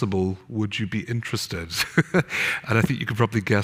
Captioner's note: laughs